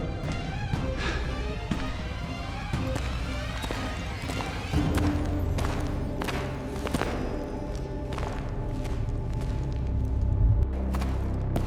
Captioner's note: footsteps thud